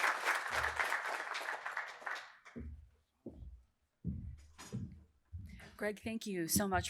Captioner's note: applause